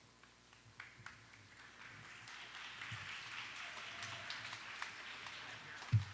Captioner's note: audience applauds